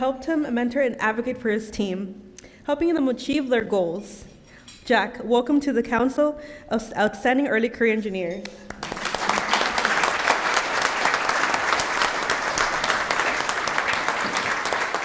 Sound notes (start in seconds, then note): 8.6 applause